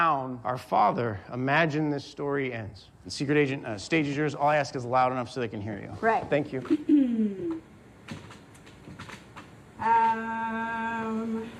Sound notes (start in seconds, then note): 6.7 clears throat